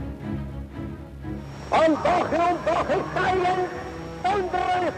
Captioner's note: speaking German